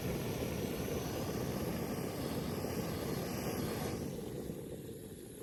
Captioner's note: sound of boiling water